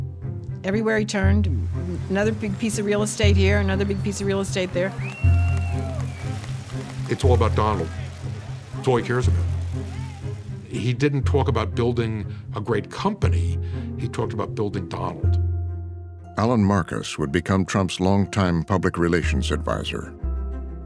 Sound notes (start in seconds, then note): 3.7 crowd cheering, whistling